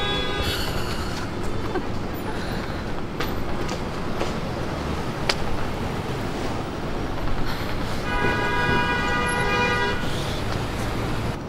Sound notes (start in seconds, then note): 2.4 traffic and car horns; 7.6 car honking